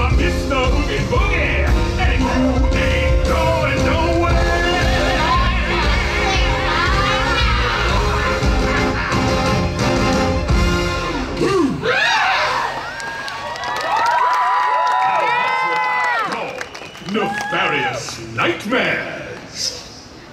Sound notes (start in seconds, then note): 11.8 the sisters scream in horror